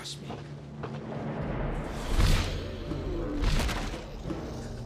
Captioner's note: foreboding music; wings flapping; sphinx growling